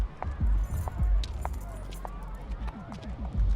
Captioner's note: keys jingle